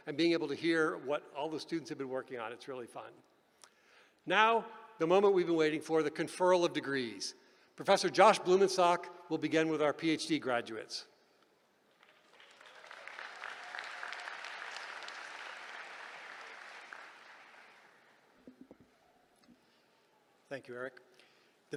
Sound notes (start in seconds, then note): 11.9 applause